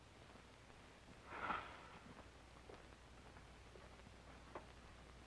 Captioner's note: Flat Top sighs